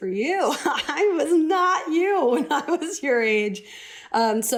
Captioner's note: laughter